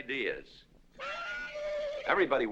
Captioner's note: horse neighing